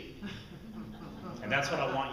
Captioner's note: audience groans nervously